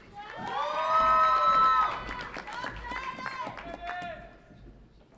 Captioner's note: audience applauds and cheers